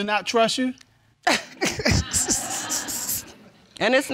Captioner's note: laughing